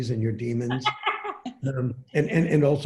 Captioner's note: laughing